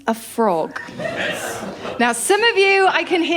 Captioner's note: laughter